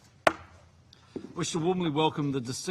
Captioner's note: gavel taps